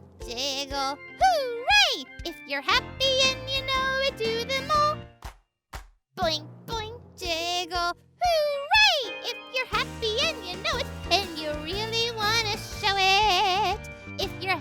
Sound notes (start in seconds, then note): 5.2 Marvie claps